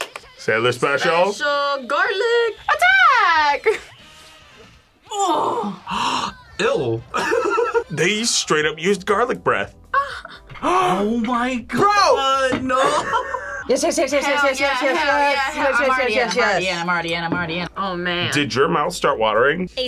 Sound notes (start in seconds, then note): 0.0 claps; 5.1 gasps; 5.6 laughs; 9.9 gasps